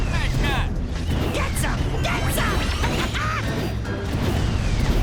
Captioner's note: laughs